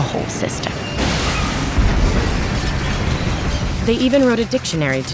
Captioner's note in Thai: เสียงรถไฟชน และระเบิด